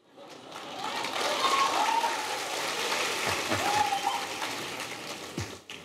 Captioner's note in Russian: Приветствия/Смех/Аплодисменты